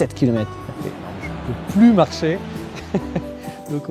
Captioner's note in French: rires